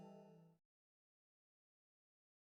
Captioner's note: silence